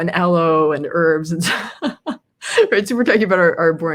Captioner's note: laughs